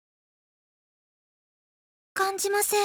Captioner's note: silence